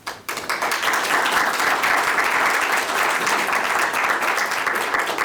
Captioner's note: applause